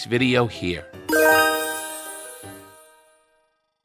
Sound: cheerful jingling

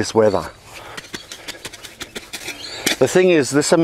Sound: hoe rustles

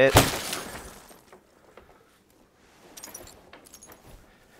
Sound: glass shatters

